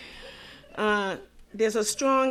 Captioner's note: audience chuckling